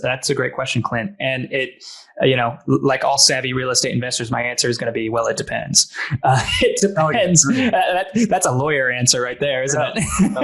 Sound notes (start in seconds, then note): 6.0 laughing